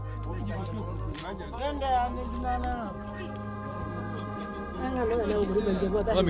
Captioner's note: villagers chattering indistinctly